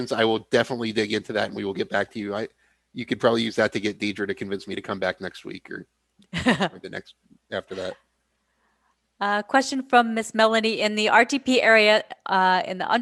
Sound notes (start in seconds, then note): 7.5 laughs